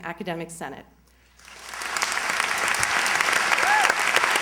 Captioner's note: applause